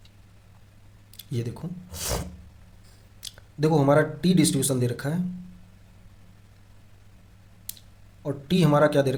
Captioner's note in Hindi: नाक से की जाने वाली आवाज़